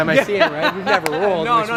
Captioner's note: laughs